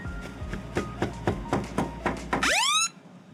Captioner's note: knocking on door; alarm going off